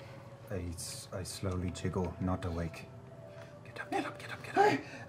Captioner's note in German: flüstert